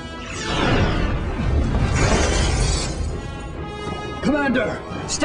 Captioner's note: explosion